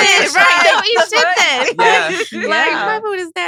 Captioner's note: laughs